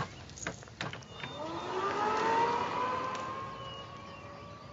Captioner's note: motor whirs